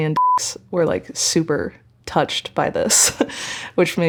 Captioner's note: chuckling